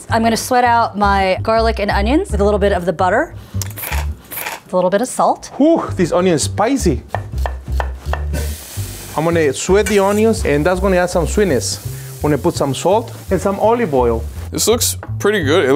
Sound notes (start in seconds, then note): 3.5 pepper crackles; 7.7 knife thumps; 8.0 onions sizzle